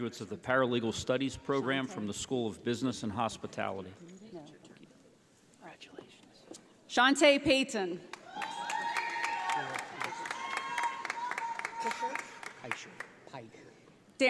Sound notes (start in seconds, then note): 8.1 audience applauding